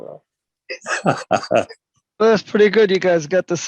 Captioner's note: laughing